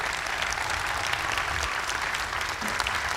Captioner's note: cheers and applause